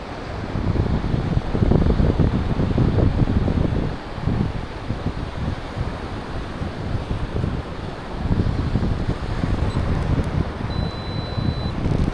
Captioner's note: wind